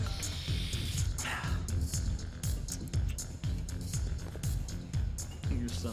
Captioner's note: Mason snorting; Mason exhaling sharply